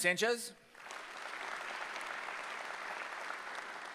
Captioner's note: applause